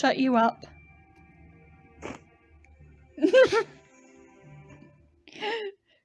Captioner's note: laughing/muffled sounds